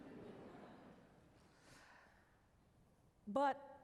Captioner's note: laughter